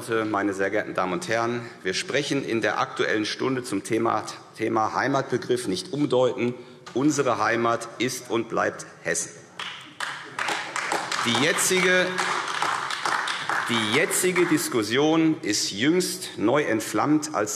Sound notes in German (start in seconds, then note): 9.6 Beifall AfD